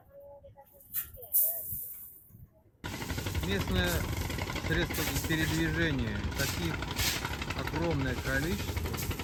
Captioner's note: engine roaring